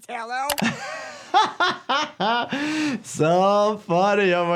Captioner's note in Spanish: persona riendo